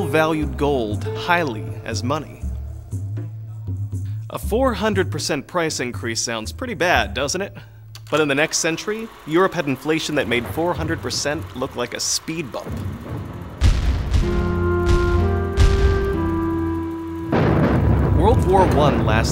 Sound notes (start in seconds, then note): 13.2 battle sounds